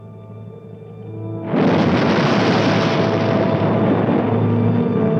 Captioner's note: tense music; waves crashing